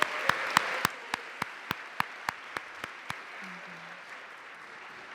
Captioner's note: applause